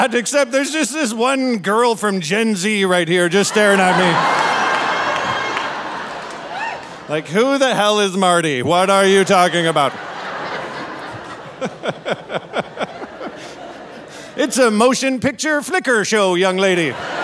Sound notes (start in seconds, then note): 3.3 audience laughing; 10.4 laughing